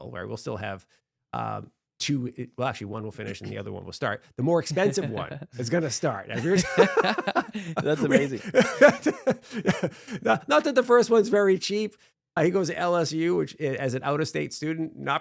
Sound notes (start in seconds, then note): 6.3 both laughing